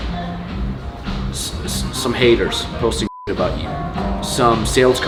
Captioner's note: beep